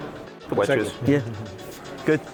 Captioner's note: chuckling